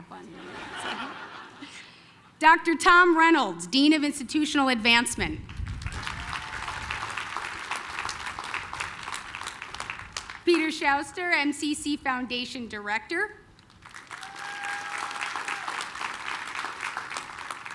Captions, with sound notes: [LAUGHTER] Dr. Tom Reynolds, dean of institutional advancement. [APPLAUSE] Peter Schuster, MCC Foundation director. [APPLAUSE]